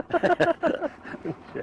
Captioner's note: laughing